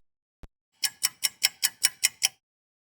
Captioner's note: sound of a ticking clock